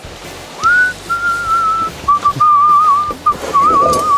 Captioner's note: whistling